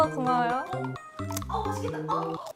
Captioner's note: crunchy